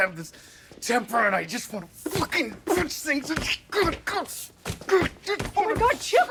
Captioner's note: grunts